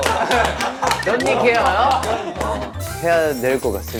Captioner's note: laughing